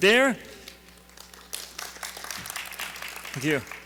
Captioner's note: audience applauding